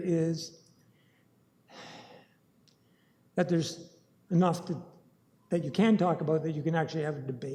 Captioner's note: sighs